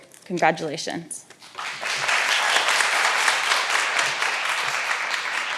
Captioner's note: all applauding